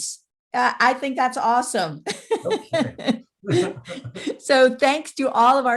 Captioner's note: laughs